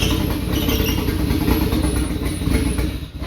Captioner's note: sounds of car engine